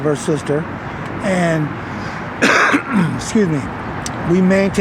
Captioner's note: coughs